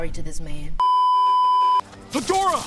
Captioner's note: beeeeeeeeeeeep